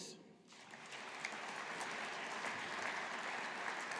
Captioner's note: audience applauding